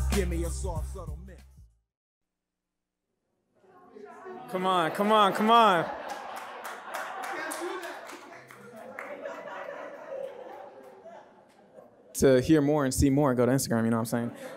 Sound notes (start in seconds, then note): 6.8 audience cheers; 9.5 audience laughs